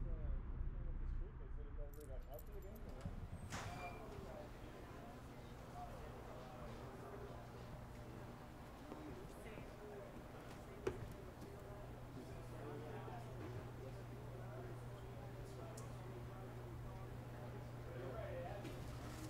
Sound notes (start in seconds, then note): 0.1 distant chatter; 4.0 background chatter